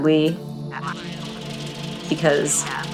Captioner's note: sound of projector